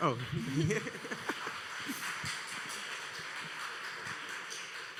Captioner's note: audience applauding